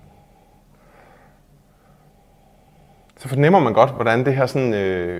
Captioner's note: comparative sniffing